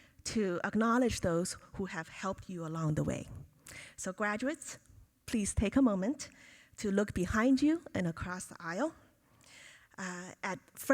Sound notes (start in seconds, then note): none